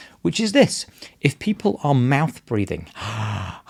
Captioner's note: sighs